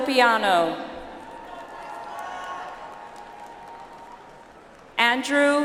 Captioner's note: audience applauds